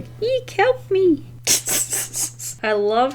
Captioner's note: laughs